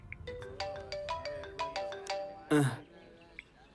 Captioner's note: mobile ringing